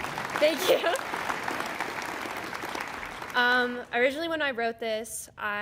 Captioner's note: applause